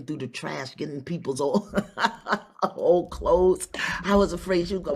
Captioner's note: laughs